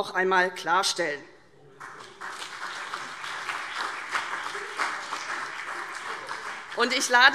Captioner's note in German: Beifall CDU und BÜNDNIS 90/DIE GRÜNEN